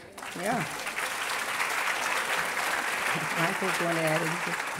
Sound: applause

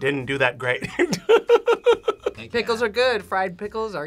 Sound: laughs

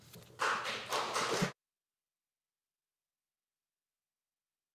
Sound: audience applauding

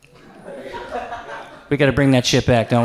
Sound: audience laughs

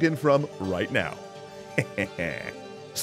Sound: laugh

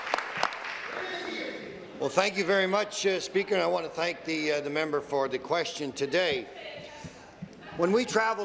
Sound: applause

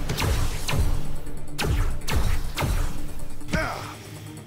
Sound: gun fires

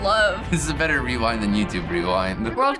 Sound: chuckles

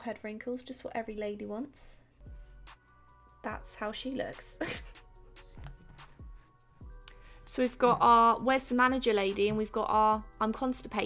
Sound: snickers

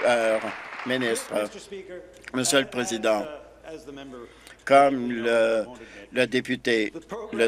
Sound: applause

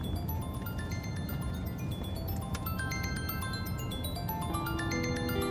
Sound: phone ringing

